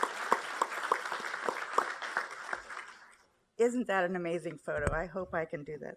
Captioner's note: applause